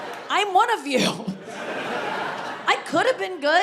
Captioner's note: audience laughing